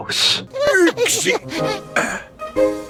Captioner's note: Daddy Pig Sounds